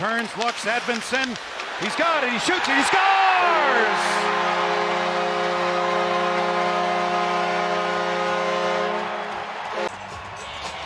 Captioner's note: goal horn